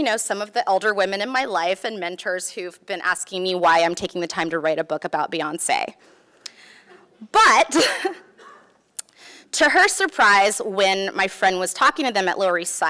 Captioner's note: laughs